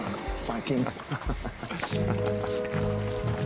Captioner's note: Homer chuckles; gasoline pours; uneasy music